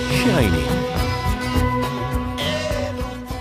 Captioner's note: male Voice